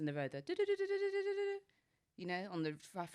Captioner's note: mimics ringing